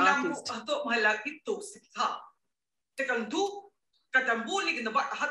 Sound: speaking gibberish

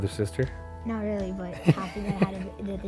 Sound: laughter; parents laugh

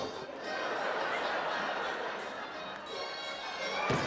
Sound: audience laughing

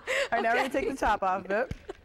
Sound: laughter

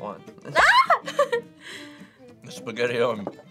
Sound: screams and laughs

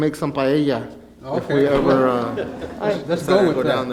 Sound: laughing

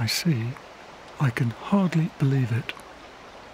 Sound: whispers

